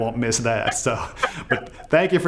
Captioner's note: laughing